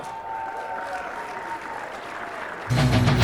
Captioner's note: cheering